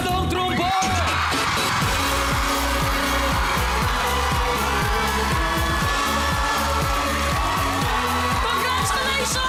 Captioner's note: theme music playing; audience cheering